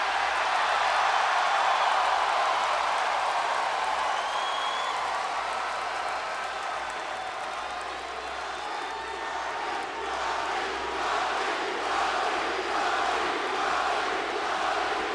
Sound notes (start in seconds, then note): 0.1 crowd cheering; 9.3 crowd chanting